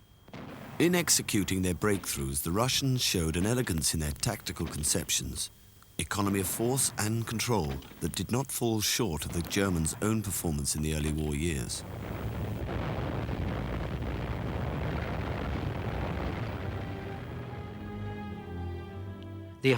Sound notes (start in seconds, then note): 12.8 engines roaring; 16.9 stirring symphonic music